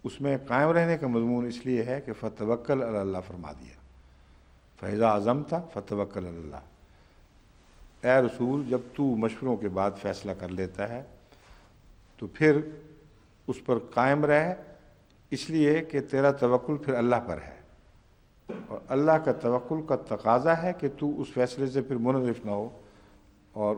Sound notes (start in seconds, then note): 5.9 Arabic